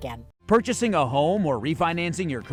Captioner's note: voiceover